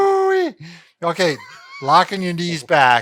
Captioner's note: laughs